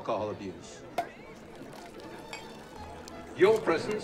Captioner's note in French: le bouchon saute, le champagne coule